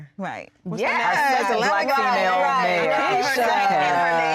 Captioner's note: collective chatter